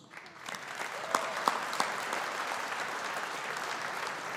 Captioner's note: audience applauding